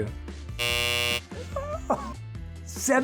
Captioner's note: buzzer buzzes